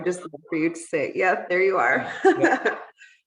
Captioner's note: laughing